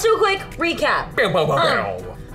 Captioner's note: imitating drums